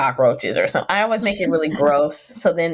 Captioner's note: laughing